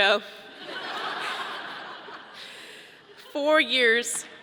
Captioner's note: audience laughing